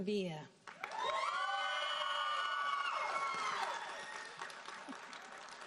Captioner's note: audience cheering and applauding